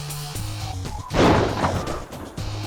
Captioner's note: gun fires